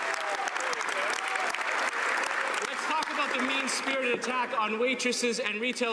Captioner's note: some Applause